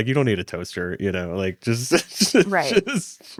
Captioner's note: laughs